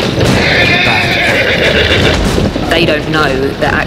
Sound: horse whinnies

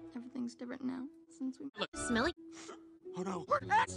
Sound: sniffs

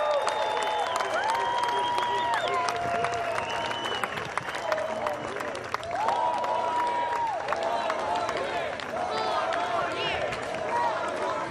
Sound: cheers and applause

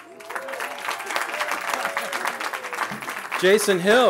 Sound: cheering

